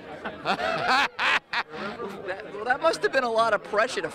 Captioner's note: laughing